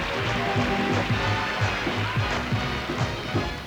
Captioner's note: whistles